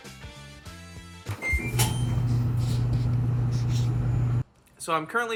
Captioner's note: dryer beeping